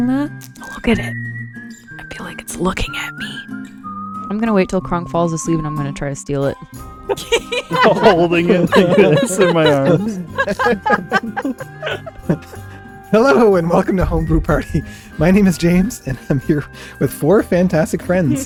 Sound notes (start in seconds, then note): 7.1 laughter